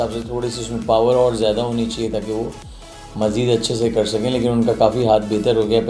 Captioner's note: none